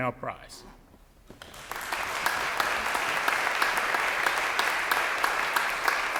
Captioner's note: audience applause